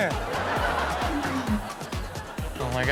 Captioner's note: audience laughs